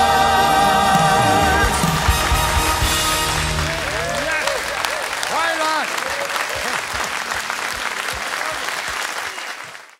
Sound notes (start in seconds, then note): 6.8 cheers and applause